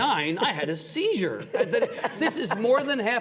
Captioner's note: laughing